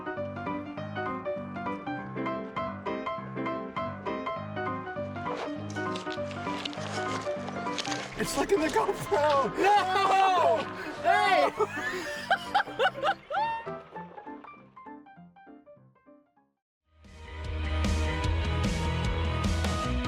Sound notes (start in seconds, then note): 0.2 jaunty music; 11.3 laughter; 16.8 upbeat music